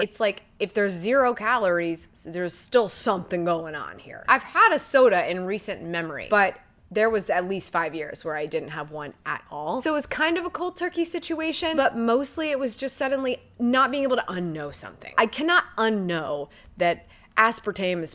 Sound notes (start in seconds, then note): none